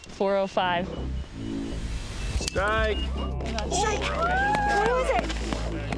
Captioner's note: crowd cheering